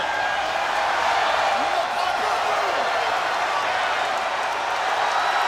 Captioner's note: audience cheering